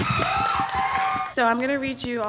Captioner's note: audience applauds and cheers